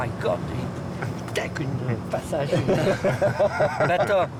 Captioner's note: laughter